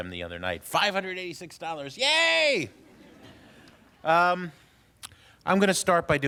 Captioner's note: laughter